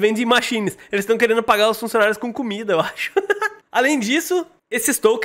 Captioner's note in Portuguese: risos